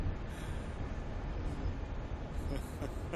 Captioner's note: Laurier Iaughing